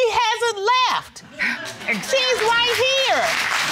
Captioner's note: audience applauds